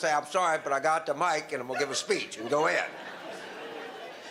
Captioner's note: audience laughter